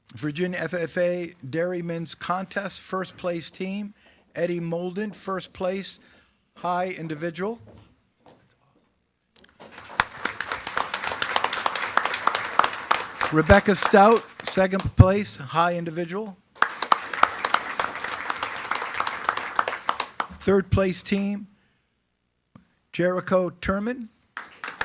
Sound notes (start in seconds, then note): 9.4 attendees clapping; 16.5 attendees clapping